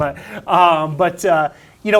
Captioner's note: laughs